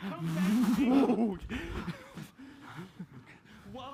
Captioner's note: laughter